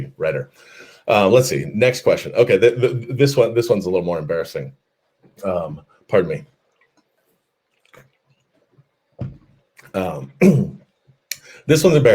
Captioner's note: takes a drink